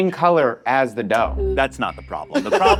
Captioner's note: all laughing